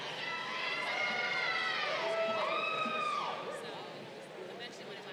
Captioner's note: crowd cheering